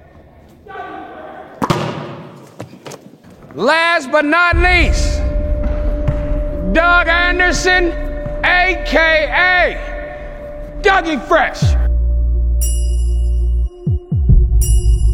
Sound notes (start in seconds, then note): 1.6 slams ball; 12.6 ding